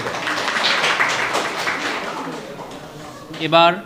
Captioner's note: applause